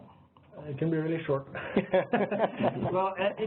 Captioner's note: laughing